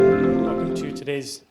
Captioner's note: gentle chime